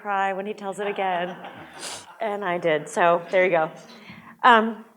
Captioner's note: audience laughs